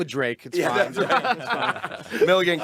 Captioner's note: group laughing